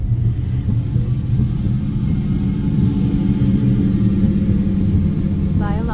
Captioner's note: static